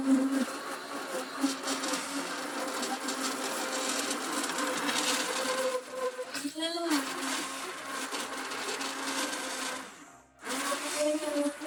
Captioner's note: machine whirring